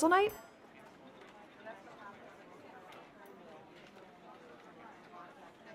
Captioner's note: diner chatter